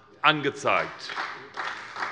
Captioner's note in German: Beifall SPD